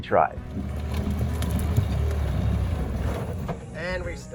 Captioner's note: engine revving